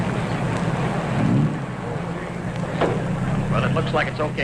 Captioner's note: engine rumbling